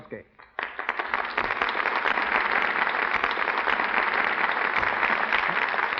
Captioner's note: applause